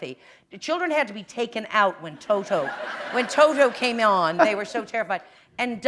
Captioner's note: laughter